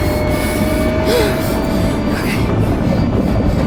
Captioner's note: sub whirring